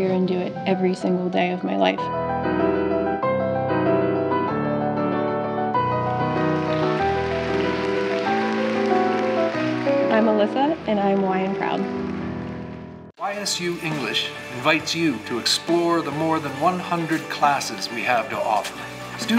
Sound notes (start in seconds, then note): 2.2 lively piano music; 5.8 audience applauding